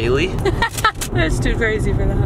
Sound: laughing

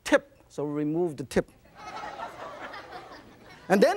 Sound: audience laughs

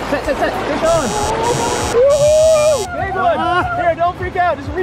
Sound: buzzing

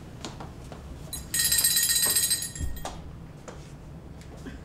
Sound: bell rings

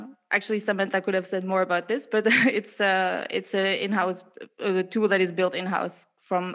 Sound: laughs

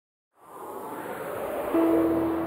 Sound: logo whooshing; gentle music

